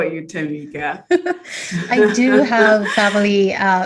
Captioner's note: both chuckle